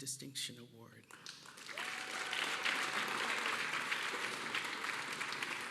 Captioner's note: cheers and applause